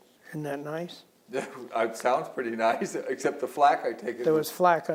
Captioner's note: laughs